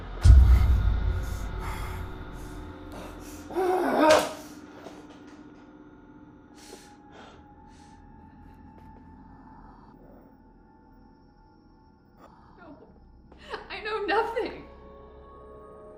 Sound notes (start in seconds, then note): 0.1 scary music; 3.7 Kenny shouts